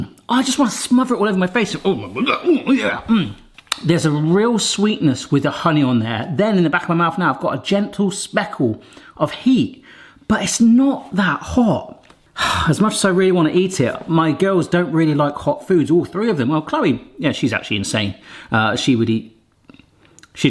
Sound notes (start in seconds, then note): 2.0 speaks gibberish